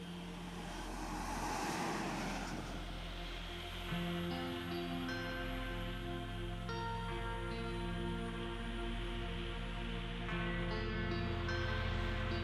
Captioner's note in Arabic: همهمة المرور; تشغيل موسيقى هادئة